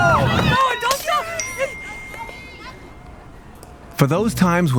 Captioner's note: crowd cheering; broken glass sound followed by notification